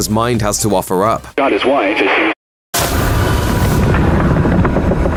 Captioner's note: radio Noise